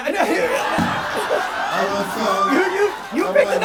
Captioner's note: audience cheering